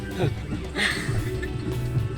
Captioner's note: laughing